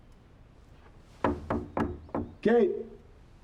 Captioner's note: knocking